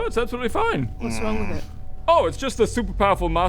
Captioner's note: unconvinced noises